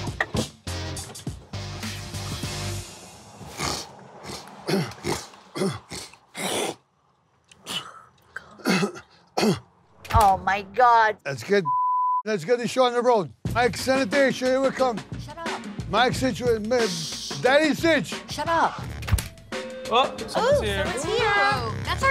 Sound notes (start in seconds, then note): 3.4 snorting loudly; 7.6 spitting on ground; 11.6 beep